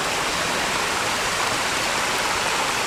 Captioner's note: water Running